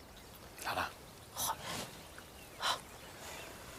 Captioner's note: whispering